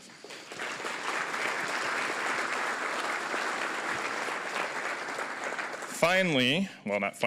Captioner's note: applause